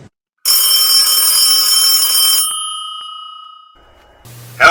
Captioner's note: phone ringing